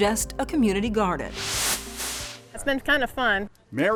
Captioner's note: screen hisses